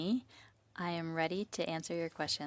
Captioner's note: speaking French